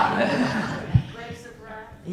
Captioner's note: laughing